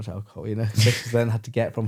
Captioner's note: laughs